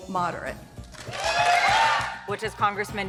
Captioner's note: audience cheering